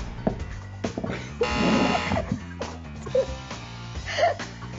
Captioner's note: buzzer buzzes; laughing